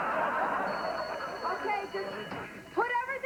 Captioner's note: bell rings